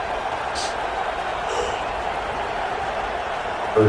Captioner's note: crowd Noises